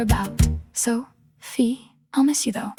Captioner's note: female voice 1